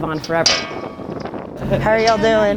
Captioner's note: sign clanging